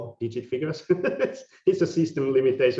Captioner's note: laughing